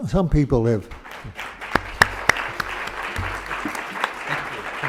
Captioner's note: applause